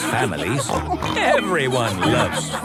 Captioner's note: snorts